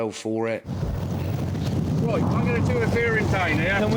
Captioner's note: wind swooshing